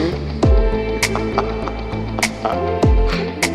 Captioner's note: laughter